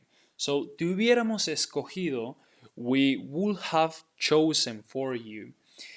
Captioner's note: speaking in Spanish